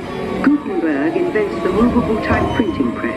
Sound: pulse blast booms

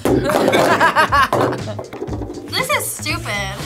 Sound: both laugh

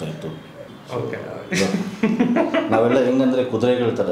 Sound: laughs

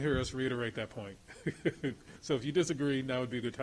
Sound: laughs

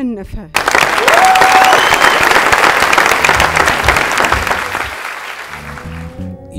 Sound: applause and scream

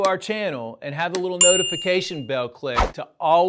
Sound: bell chimes

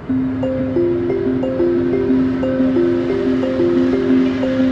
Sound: light music; boat motor humming

